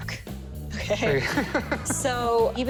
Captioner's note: laughs